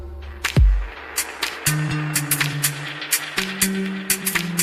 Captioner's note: applause